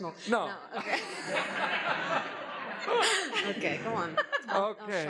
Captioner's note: laughs